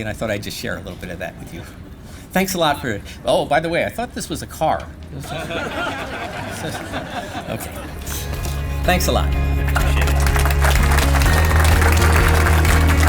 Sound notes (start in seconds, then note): 5.2 laughter; 10.6 applause